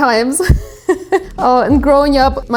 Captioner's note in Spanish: se ríe